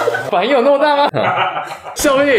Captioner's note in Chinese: 豪邁的笑聲